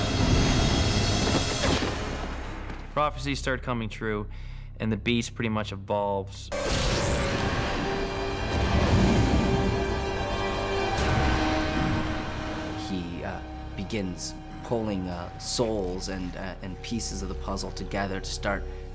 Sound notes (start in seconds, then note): 1.4 gunshots; 12.8 dramatic music